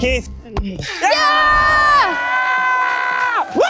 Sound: cheering

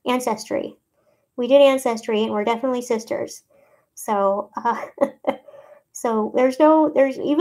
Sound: laughs

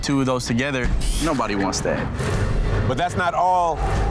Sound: digital beeping; ominous music

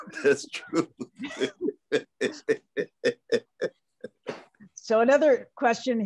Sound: laughter

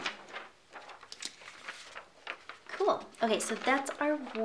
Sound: paper rustling

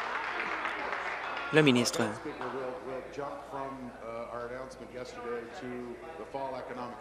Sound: applause

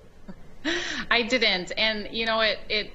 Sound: chuckles

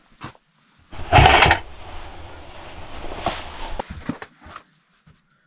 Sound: buckets clattering

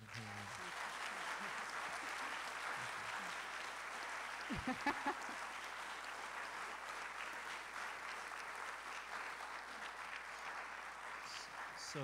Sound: applause

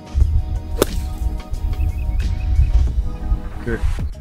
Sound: golf club whacks; upbeat music

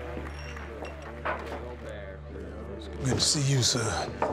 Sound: chattering

